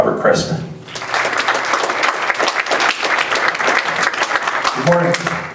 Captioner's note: applause